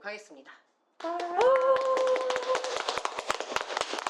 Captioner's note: applause and cheers; applause